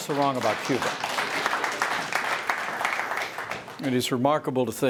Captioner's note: applause